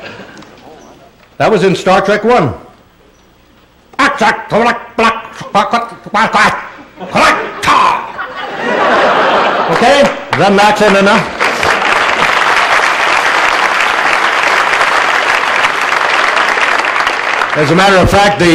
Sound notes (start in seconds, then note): 3.8 Doohan imitates guttural Klingon language; 3.8 laughter; 11.0 applause